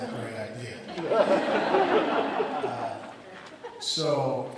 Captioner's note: audience laughs